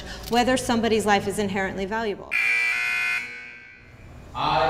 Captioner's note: alarm